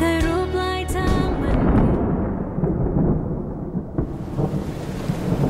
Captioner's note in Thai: เสียงฟ้าร้อง; เสียงฝนตก